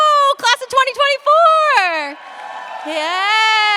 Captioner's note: cheers, applause